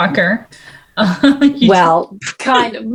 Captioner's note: laughs